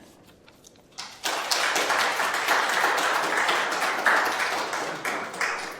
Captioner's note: audience applauding